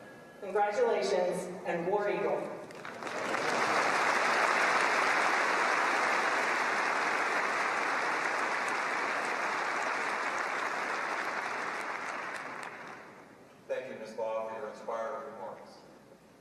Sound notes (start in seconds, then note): 2.6 applause